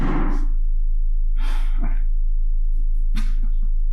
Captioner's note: knocking